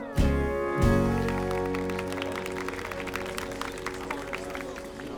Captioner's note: audience applauding